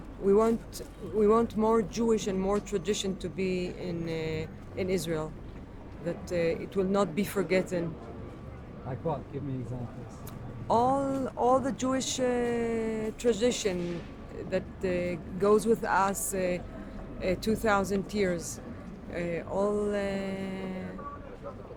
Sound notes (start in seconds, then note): 0.0 speaking in foreign language; 9.0 voiceover